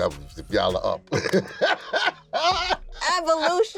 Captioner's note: chuckles